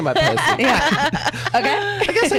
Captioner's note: laughs